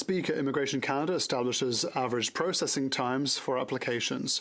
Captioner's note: speaking French